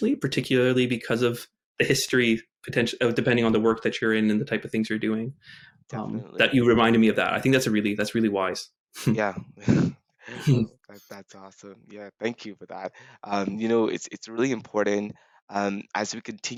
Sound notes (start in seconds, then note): 10.3 chuckles